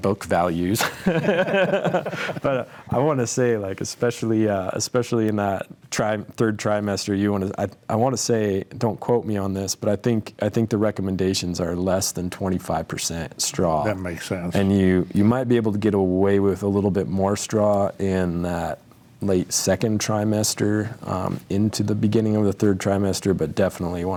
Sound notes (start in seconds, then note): 3.5 panelists laughing